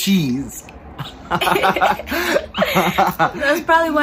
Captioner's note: laughing